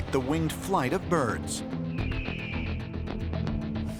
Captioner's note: bird screeches